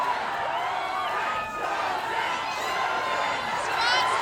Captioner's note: Crowd chanting "Go Strange" or "Croaker" depending on allegiance